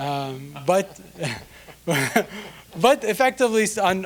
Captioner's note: scattered laughing